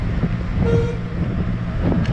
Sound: horn

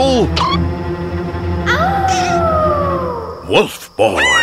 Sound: Pocoyo howls; Pato screams

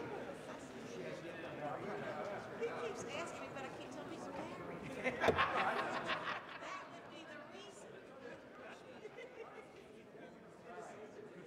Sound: gavel striking block

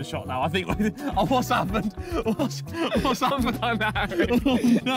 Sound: laughs

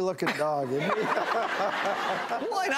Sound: audience laughing

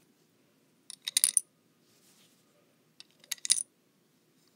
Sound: coins being inserted

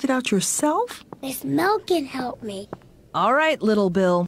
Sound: whispering

